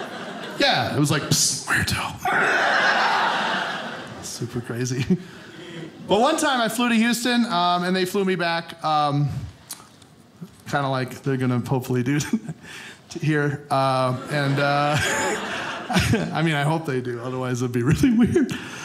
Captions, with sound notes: Yeah, it was like, "psst, muerto." (audience laughing) Super crazy. But one time I flew to Houston and they flew me back. Kinda like they're gonna hopefully do here (audience laughing) And I mean, I hope they do, otherwise it'd be really weird.